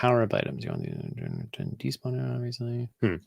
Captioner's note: mumbling